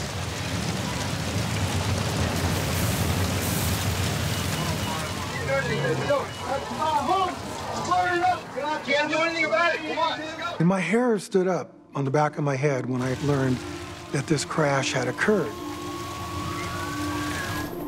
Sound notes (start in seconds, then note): 0.2 fire crackling; 4.4 crowd chattering; 15.9 siren blaring